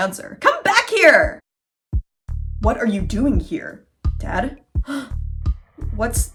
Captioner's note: ominous music; gasp